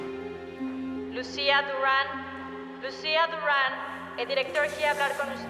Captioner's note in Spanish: por el altoparlante